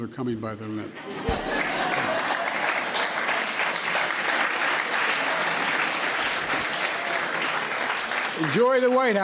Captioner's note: laughter and applause